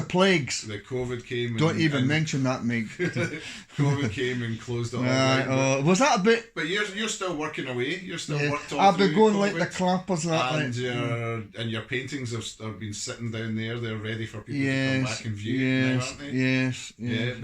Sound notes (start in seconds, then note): 2.8 laughs